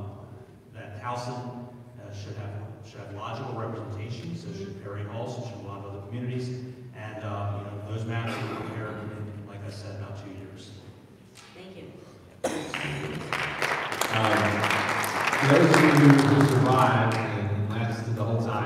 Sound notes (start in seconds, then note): 12.5 audience applauding